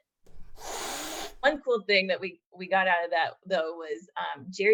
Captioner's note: hissing cat